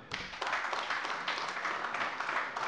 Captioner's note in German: Beifall AfD und vereinzelt SPD